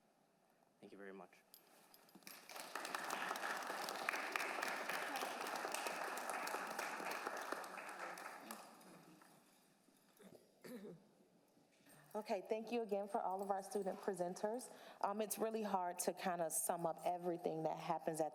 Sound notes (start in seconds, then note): 2.2 applause